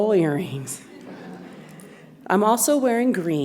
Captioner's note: audience laughs